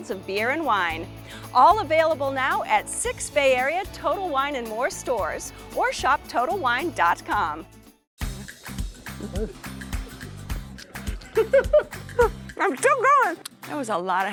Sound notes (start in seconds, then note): 7.9 lively music; 10.9 laughing